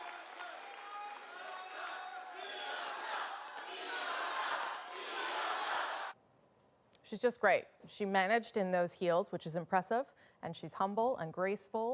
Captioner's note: applause